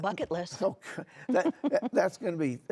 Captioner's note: chuckling